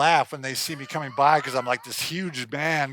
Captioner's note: laughing